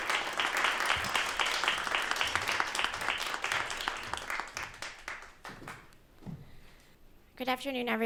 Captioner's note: applause